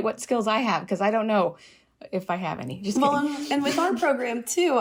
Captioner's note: laughter